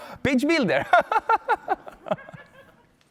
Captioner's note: laughs